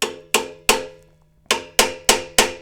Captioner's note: metal clanking